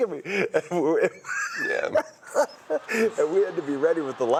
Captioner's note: laughs